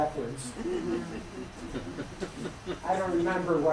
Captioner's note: laughter